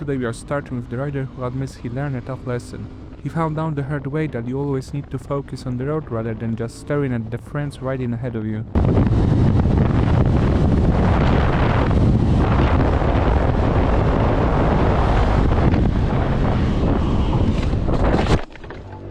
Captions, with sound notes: Hey guys. Today we are starting with the rider who admits he learned a tough lesson. He found out the hard way that you always need to focus on the road, rather than just staring at the friends riding ahead of you. [wind blowing]